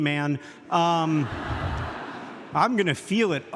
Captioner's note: audience laughs